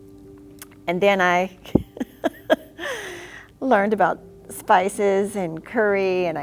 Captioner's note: laughs